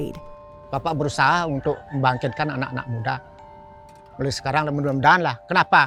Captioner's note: speaking foreign language